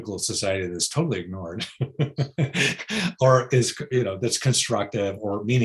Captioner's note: laughs